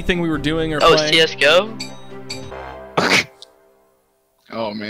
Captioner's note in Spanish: risa nerviosa